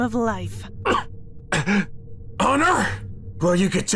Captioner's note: coughing